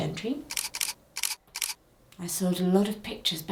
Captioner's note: camera clicking